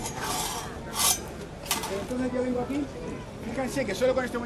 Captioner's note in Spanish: habla de espaldas